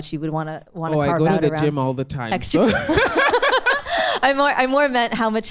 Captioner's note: laughs